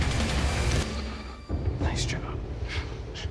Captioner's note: whispering